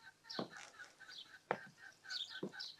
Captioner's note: gobble